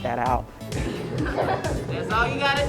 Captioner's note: students laughing